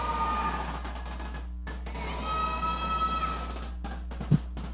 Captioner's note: crowd shouting